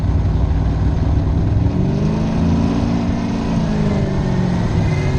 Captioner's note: car engine revving